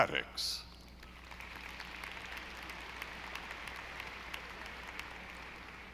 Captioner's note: audience applauding